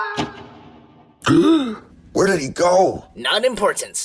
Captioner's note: gasp